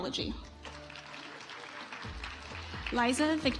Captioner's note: audience applauds